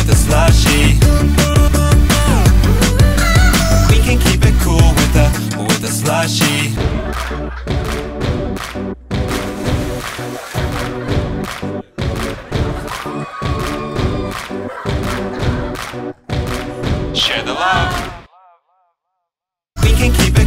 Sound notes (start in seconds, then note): 1.1 upbeat techno music; 6.9 upbeat techno music; 8.3 rhythmic clapping; 12.7 people excitedly screaming